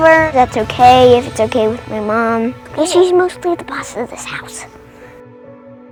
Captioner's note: whispering